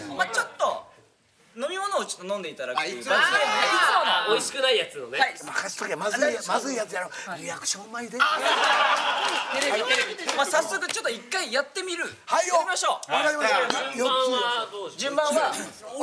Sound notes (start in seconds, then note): 8.2 laughter